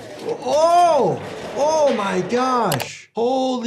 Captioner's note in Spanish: ruido de trineo